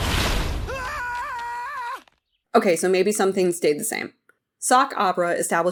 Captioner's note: screams